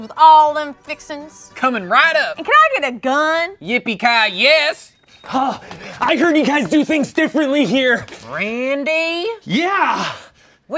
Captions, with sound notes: with all them fixings? - Coming right up! - And can I get a gun? - Yippee ki-yes! (bell chimes) - uh, yes! I heard you guys do things differently here. - Randy? - Yeah.